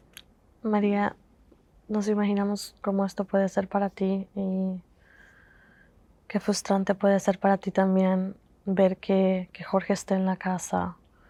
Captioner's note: Spanish